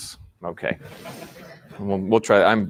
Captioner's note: laughter